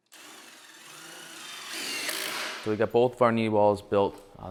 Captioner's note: machine drills